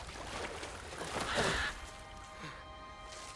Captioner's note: caw